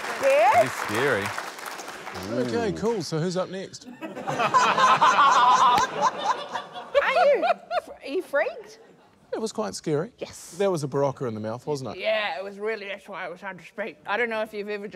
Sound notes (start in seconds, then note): 3.8 laughter